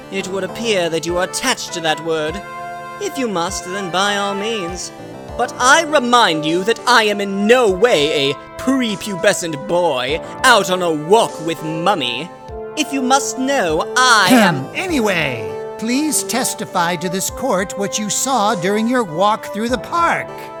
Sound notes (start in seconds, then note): 14.2 ahem!